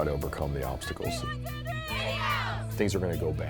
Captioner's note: sports team cheering